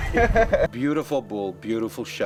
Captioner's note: laughing